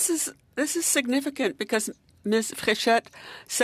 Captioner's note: speaking French